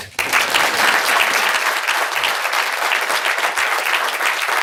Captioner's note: audience applauding